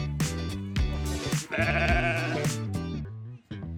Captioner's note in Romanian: sunet de cǎprițǎ